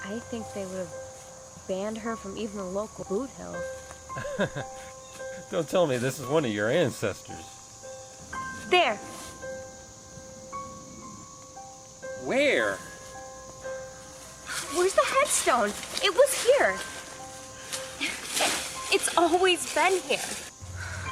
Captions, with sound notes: I think they would have banned her from even a local boot hill. (Laughs) Don't tell me this is one of your ancestors. There! Where? Where's the headstone?! It was here! It's always been here.